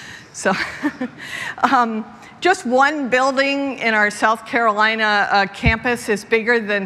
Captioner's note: laughter